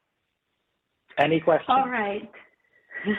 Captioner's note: chuckles